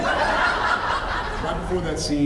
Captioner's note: laughs